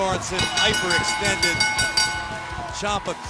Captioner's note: bell ringing